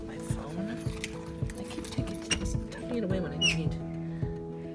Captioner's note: door handle squeaks